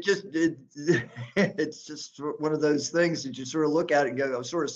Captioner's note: laughter